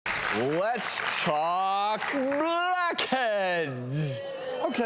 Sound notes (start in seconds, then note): 0.0 audience clapping